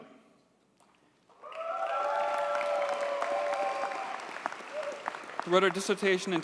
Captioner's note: audience cheers and applauds